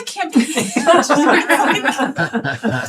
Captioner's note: laughing